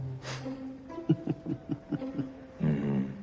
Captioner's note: Maisie chuckles